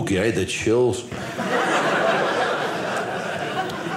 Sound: audience laughing

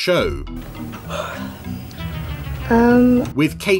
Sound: yawns

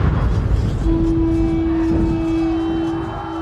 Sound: war horn; war drums

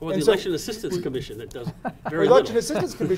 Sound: laughing

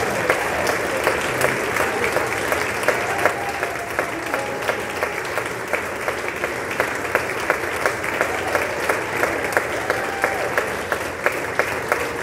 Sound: applause

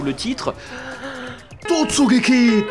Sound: taking a deep breath

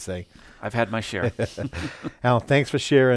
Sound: laughs

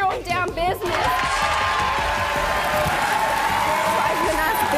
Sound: audience cheers

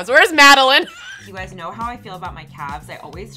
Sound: laughs

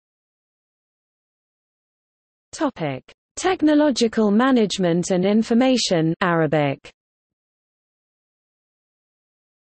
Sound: Arabic

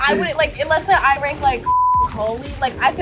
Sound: beep

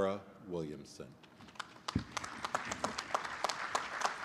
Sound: applause

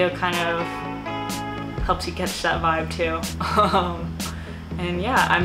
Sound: laughs

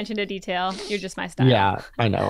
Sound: laugh

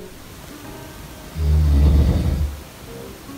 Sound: snoring

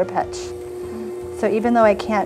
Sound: stand whirring

